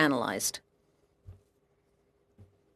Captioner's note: speaking french